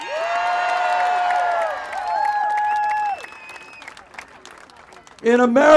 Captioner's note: applause